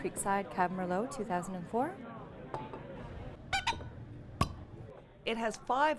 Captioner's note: cork Popping